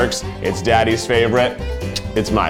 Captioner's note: kisses